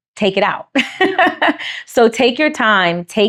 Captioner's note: laughs